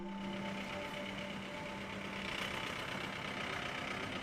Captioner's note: engine running